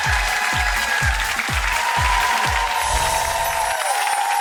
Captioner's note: applause and cheering